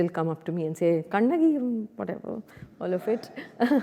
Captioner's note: speaking foreign language